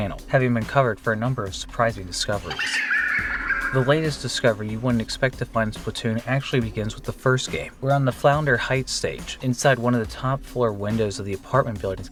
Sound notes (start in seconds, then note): 2.5 creepy laugh